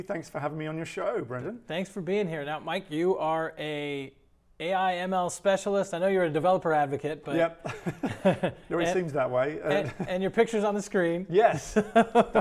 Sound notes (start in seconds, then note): 7.6 both chuckling; 11.4 laughs